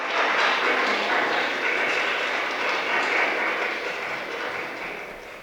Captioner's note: applause from the audience